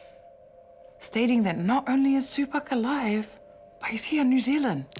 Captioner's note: quietly